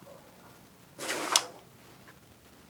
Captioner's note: sound of a gun being aimed